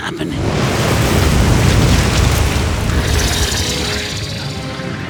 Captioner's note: rumbling